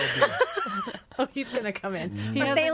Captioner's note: all laughing